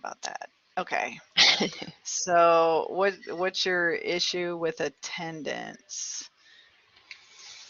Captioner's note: laughter